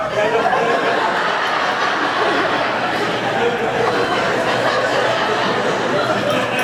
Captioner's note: laughter